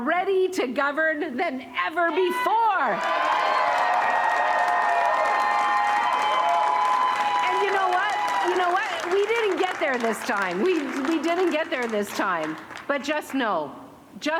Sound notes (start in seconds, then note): 2.1 cheering